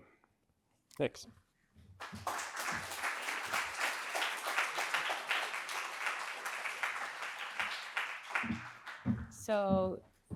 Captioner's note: applause